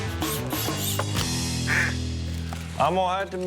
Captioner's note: duck call